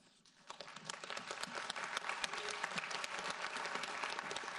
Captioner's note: audience applauds